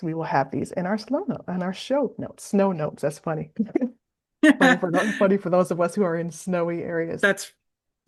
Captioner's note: both laugh